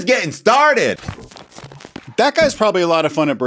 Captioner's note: scene change crackling